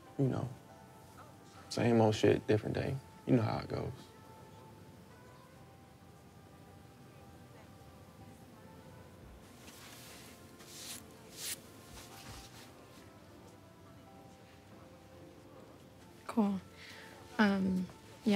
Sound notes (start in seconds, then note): 9.6 brush scrapes